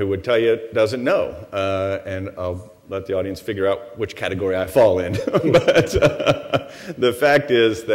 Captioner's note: laughs